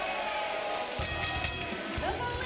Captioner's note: bell ringing